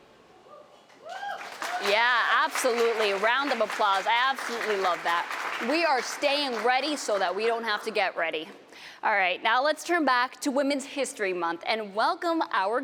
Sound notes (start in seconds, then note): 2.1 applause